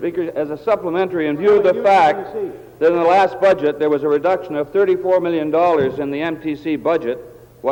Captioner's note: table Pounding